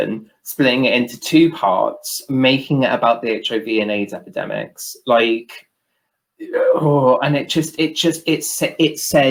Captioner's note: groan